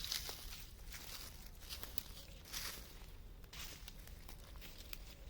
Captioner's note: footsteps crunch